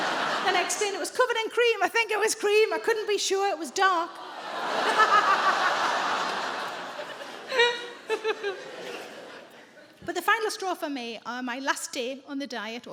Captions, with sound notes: Then I explained it was covered in cream. I think it was cream. I couldn't be sure, it was dark. [AUDIENCE GROANS] - [SARAH LAUGHS] But the final straw for me on my last day on the diet